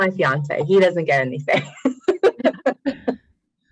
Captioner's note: laughs